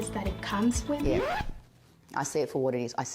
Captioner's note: record scratching